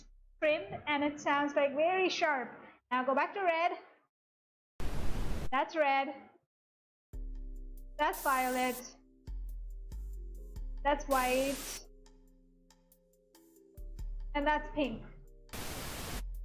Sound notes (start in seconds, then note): 11.1 violet noise; 12.5 white noise; 15.5 pink noise